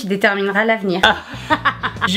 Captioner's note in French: Rires